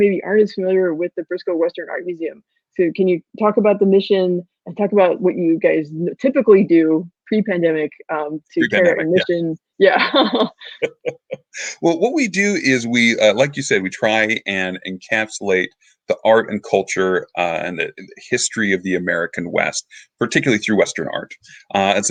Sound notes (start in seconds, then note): 10.0 laughing